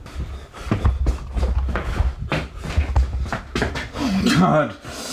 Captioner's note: breathing heavily